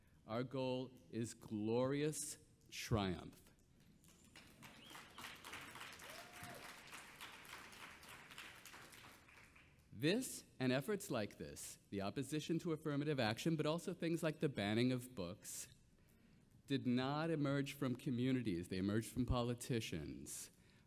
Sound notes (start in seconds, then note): 4.2 audience cheering and clapping